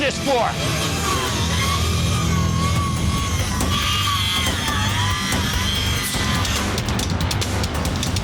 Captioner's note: cutters whirring